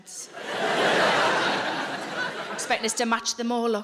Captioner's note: audience laughs